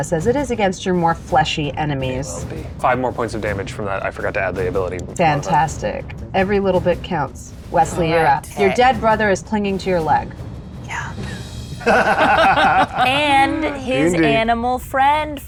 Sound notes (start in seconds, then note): 11.8 laughs